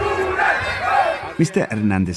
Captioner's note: chanting